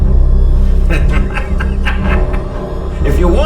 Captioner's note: tense dramatic music; Torrez laughs